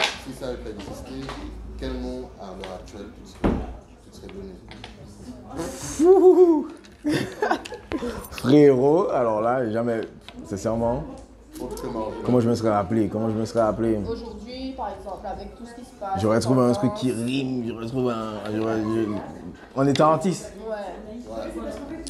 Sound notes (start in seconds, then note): 5.8 gasps; 5.9 laughs